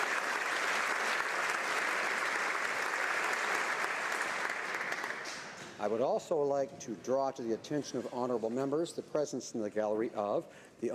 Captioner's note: applause